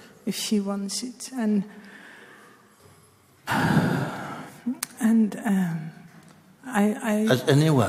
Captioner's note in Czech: hluboký povzdech